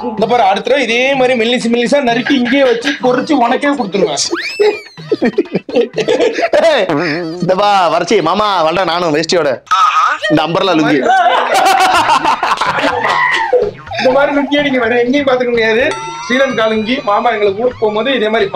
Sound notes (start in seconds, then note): 11.7 laughs